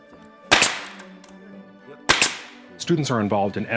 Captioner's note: nail gun